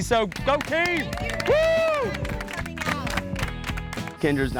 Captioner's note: cheers and applause